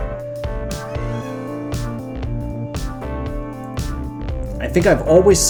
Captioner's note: meow